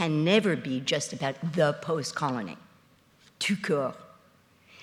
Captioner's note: speaks in foreign language